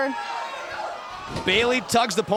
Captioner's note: crowd cheering